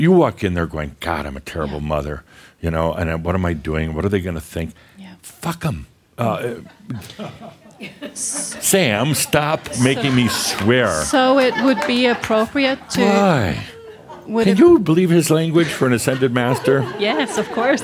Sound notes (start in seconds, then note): 6.5 some chuckles; 9.9 more chuckles